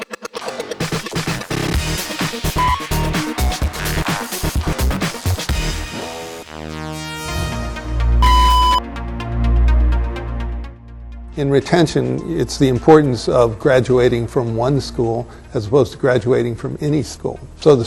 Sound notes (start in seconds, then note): 8.2 beep